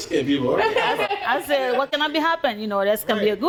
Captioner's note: laughing